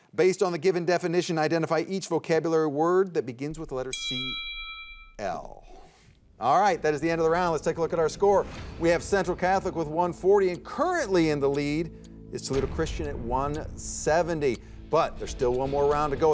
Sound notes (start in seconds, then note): 3.8 chiming